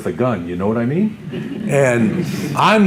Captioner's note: audience Laughter